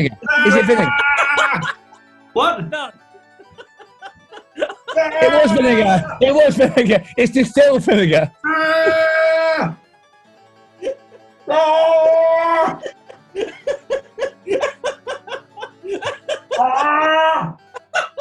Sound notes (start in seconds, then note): 0.2 horne yells in pain; 3.2 laughter; 4.9 yells in pain; 8.4 horne yells in pain; 11.4 horne yells in pain; 12.7 laughter; 16.5 horne yells in pain; 17.5 laughter